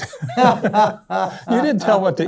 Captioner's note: laughs